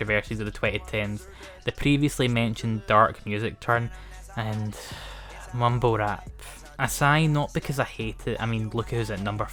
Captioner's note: sigh